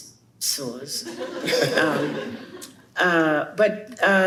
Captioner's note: chuckles